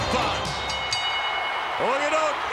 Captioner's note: bell rings